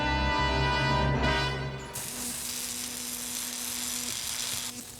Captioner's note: crackling